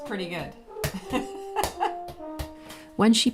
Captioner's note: laughter